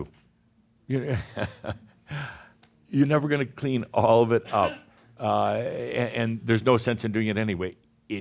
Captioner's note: chuckles